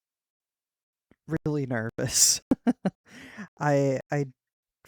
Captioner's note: pained laugh